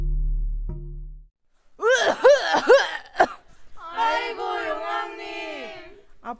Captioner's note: coughing